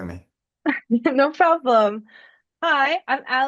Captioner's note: chuckles